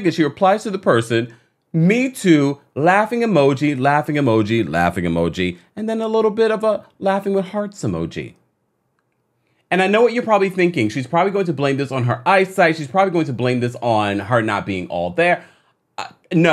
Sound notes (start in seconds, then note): none